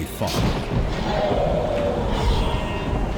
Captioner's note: screams